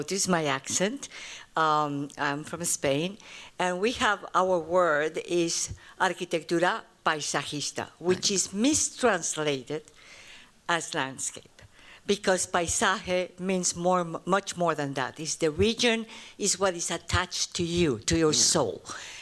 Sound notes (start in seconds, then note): 5.4 spanish